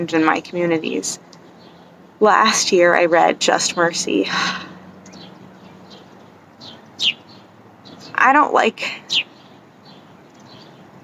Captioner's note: sigh